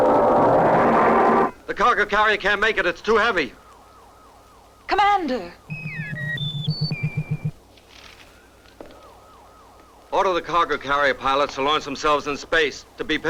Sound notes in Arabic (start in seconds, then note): 5.6 صوت صفير الشاشة